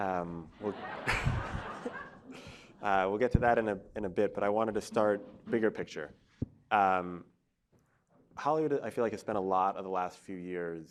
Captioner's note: laughter